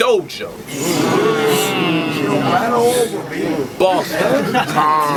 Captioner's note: crowd Reaction